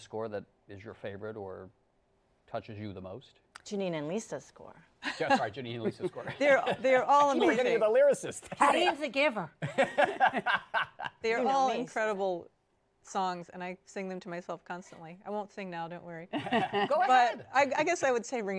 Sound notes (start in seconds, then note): 9.6 laughs; 16.3 laughter